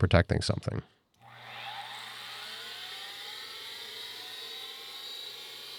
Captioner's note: machinery whirring